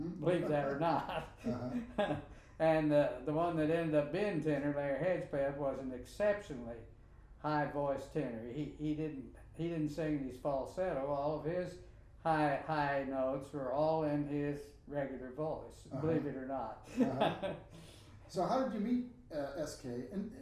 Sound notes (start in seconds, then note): 0.3 laughing; 16.9 laughing